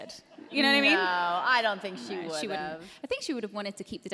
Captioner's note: laughter